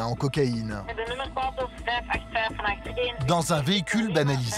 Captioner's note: Dutch spoken audio